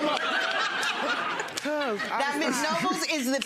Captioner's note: audience laughing